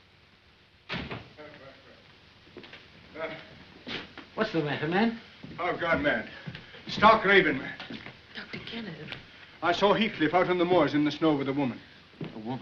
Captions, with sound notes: [door closes] Ellen. What's the matter, man? I've gone mad. Stark raving mad. Dr. Kenneth. I saw Heathcliff out in the moors, in the snow, with a woman.